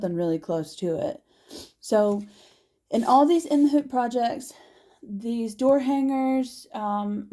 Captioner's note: sniffles